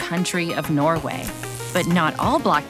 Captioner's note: electricity crackling